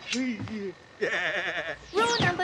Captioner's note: chuckling